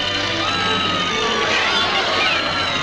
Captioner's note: people screaming